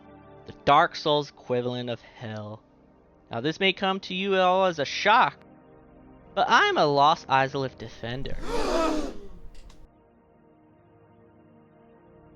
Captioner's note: gasp